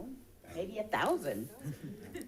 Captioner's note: people chuckling